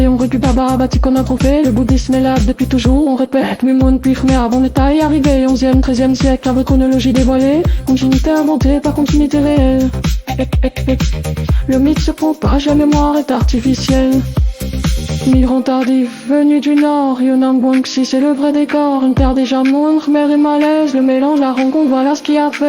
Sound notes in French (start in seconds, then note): 15.3 voix filtrée, ambiance rêveuse